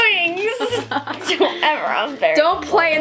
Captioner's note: laughing